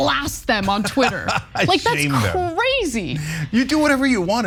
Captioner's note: laugh